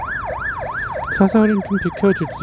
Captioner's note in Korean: 구급차 소리